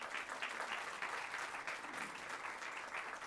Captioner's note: applause